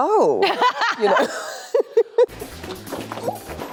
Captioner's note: laughs; dramatic upbeat music